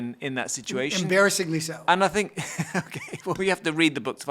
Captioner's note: chuckles